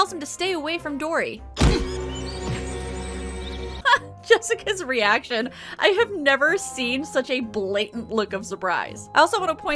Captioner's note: punch